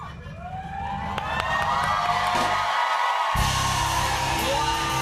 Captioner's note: cheers and applause